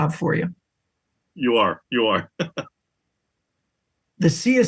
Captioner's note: laugh